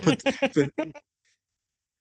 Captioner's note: laughs